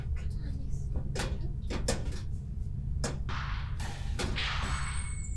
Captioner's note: Natalie muttering; door creaking